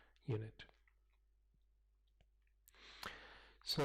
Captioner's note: pause